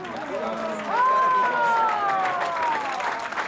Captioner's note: crowd cheering